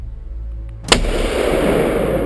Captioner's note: intense music; gunshot